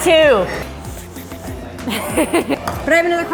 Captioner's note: laughing